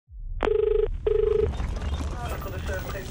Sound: phone ringing

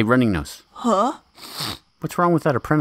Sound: congested sniff

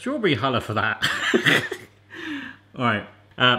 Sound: laughs

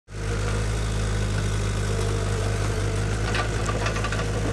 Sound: skid steer engine humming

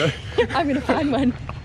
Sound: laughs

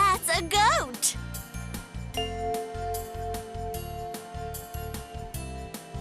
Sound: bell chimes

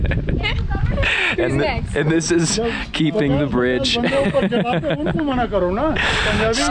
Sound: both laughing; laughing

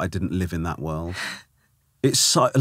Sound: laughing

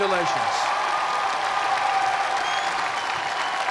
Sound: cheers and applause

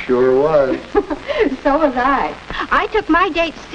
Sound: giggles

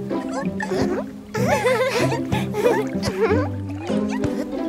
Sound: laughing

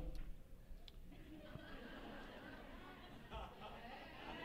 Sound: laughs

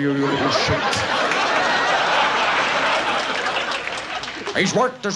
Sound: audience laughs

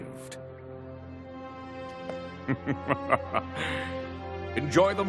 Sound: evil laughing

